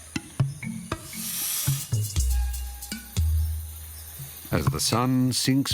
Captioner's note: snake hisses